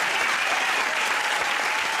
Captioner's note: cheers and applause